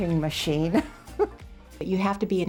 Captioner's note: laughs